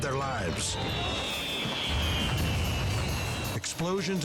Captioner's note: fireworks exploding